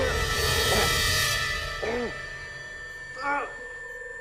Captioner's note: tone droning; grunting